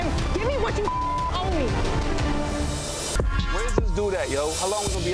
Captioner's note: beep